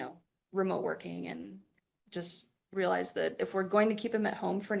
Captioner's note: none